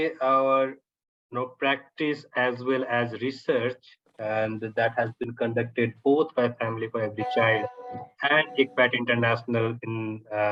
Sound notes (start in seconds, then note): 7.2 device pinging